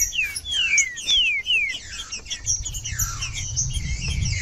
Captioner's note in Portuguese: trinca ferro cantando